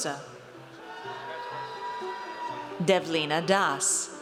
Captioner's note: audience cheers